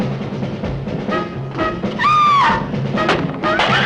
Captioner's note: screams